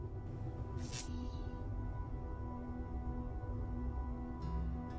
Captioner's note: anxious electronic music; electricity crackles